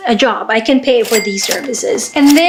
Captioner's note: cash register cha-ching